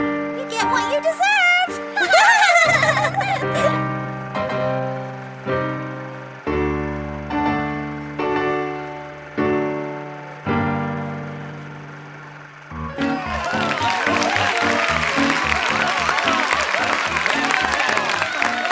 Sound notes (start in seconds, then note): 0.0 dramatic piano music; 1.3 triplets laughing; 3.9 dramatic piano music; 12.8 audience applauding; 13.1 jaunty piano music